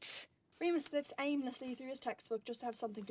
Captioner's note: pages flip